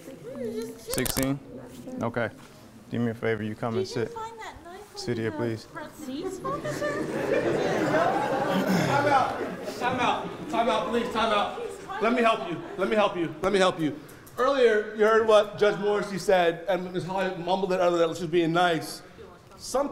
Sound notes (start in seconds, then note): 6.1 attendees laughing